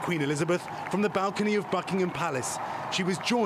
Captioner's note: cheers and applause